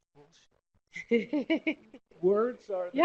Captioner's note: laughter